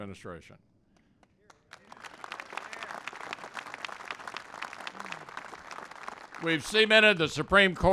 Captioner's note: applause